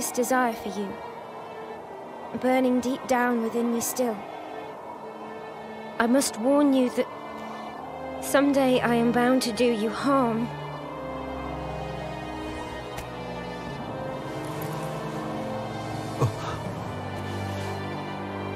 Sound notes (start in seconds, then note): 5.7 in-game audio